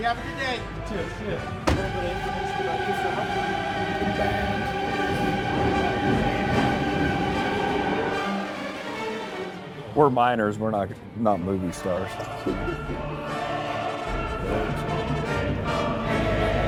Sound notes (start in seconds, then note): 2.1 dramatic opera music; 12.2 laughs; 13.3 dramatic opera music